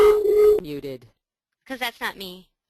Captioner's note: voiceover